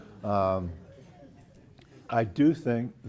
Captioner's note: laugh